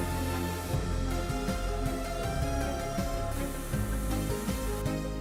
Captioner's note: drill whirring; machine whirring